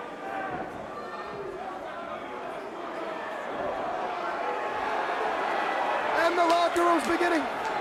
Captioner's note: crowd cheering